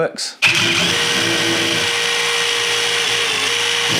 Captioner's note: drill whirs